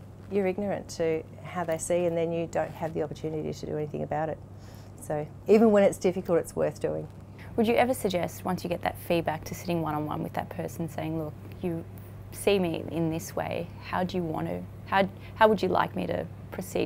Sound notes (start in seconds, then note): none